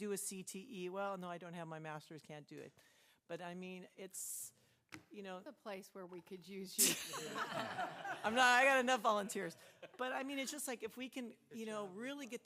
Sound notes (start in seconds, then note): 9.5 laughter